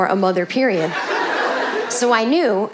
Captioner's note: audience laughing